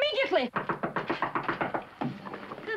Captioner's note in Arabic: طرق الباب